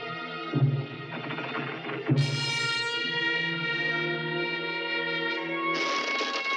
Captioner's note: door creaking; ominous orchestral music